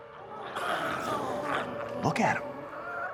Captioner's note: glowzies growling